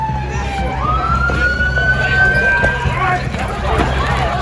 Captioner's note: siren wailing